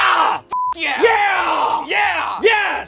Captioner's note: beep